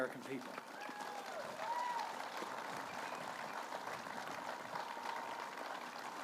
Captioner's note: applause